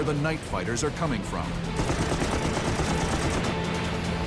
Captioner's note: guns firing